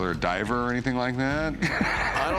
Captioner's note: laughs